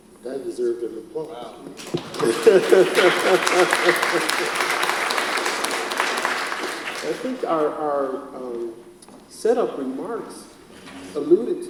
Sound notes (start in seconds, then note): 1.7 audience applauds; 2.0 laughs